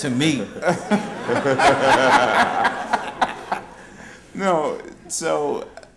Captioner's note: laughter